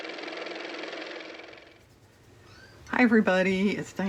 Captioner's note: car motor